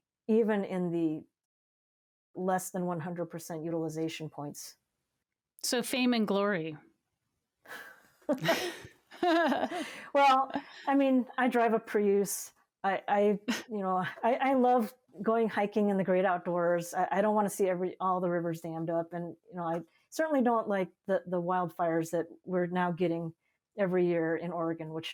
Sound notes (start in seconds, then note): 9.0 both laughing